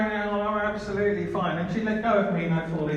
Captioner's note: slurring